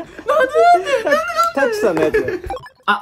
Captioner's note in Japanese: 高い声で